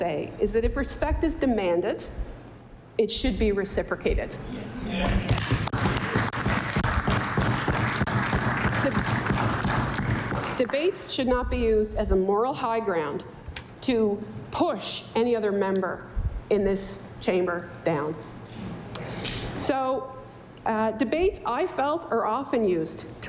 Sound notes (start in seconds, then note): 8.2 applause